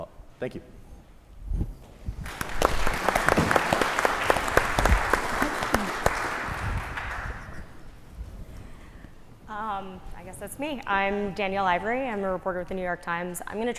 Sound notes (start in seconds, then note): 2.2 applause